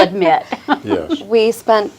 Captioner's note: chuckles